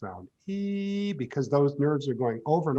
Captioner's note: imitates high-pitched sound